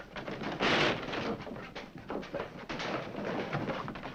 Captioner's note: rail breaking